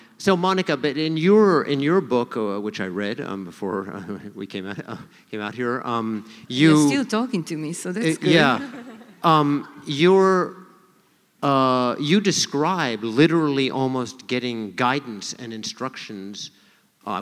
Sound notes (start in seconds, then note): 8.2 laughter